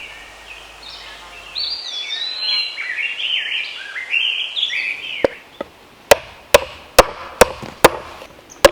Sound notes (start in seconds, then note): 0.0 insects buzzing; 6.9 hammering